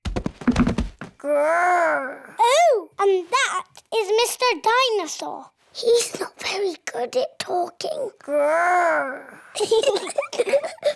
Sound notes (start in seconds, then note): 5.6 whispers; 9.5 both giggle